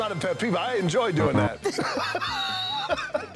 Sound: both Laughing

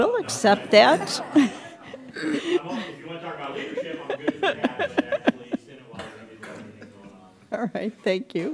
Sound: laughter

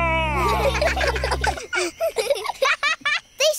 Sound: children giggle

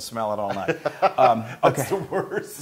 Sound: laugh

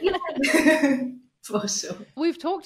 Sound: chuckles

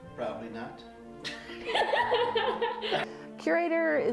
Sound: laughing

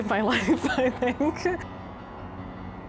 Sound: laughs; somber music

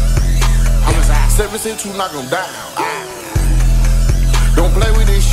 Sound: woo

